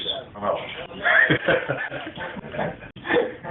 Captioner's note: laughing